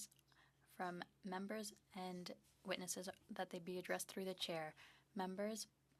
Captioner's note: speaking French